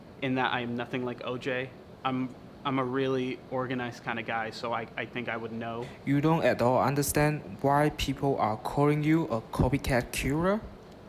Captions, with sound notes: in that I am nothing like OJ. I'm a really organized kind of guy, so I think I would know. (Voiceover) You don't at all understand why people are calling you a copycat killer?